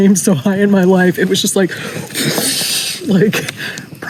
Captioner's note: whooshing sound